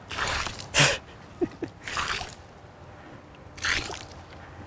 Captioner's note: water dropping